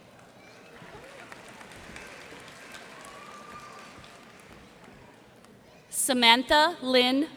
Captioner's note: cheers and applause